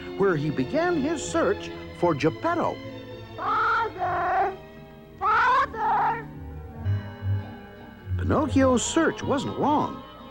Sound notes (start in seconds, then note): 3.1 water distorted